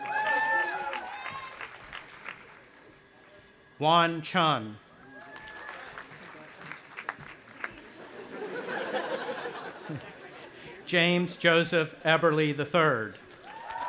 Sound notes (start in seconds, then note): 0.0 audience applauding and cheering; 5.0 audience applauding; 7.6 audience laughing; 13.0 audience applauding and cheering